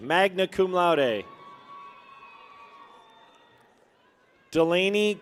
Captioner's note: people cheer